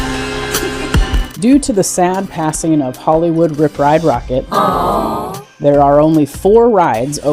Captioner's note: crowd says "Aww"